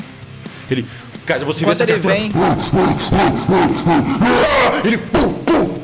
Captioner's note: roaring